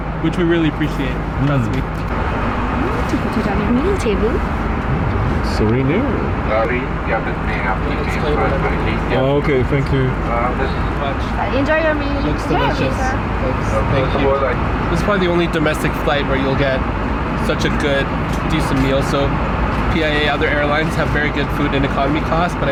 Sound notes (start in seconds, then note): 3.2 air hostess speaking faintly